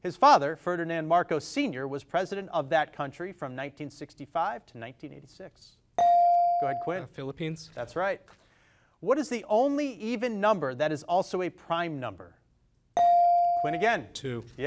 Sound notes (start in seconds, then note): 6.0 device dings; 13.0 device dings